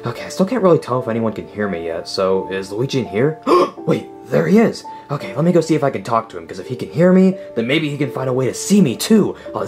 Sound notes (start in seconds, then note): 3.5 gasping